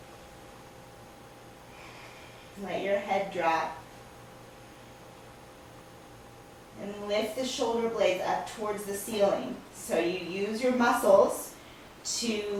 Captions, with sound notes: (breathing sounds) Let your head drop And lift the shoulder blades up toward the ceiling. So you use your muscles to lift the